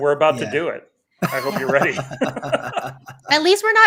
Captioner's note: everybody laughing